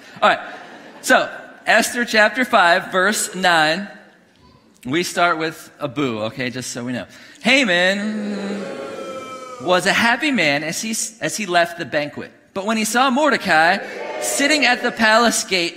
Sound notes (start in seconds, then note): 8.0 congregation booing; 13.4 congregation cheering